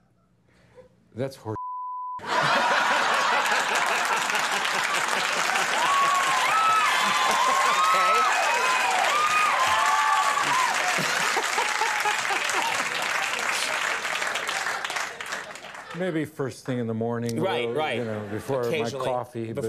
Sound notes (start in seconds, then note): 1.6 beep; 2.2 audience laughing; 5.3 audience clapping; 8.7 audience cheering